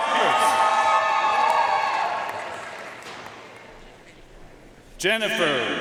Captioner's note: audience cheering and applauding